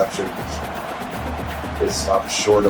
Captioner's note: crowd Noises